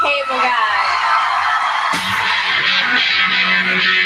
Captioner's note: audience screams